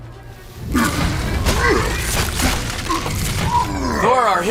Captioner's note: grunting and roaring